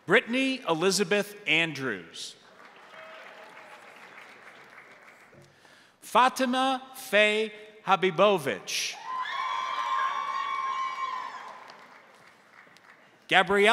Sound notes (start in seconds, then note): 2.4 crowd applauding; 9.0 crowd cheering; 9.4 crowd applauding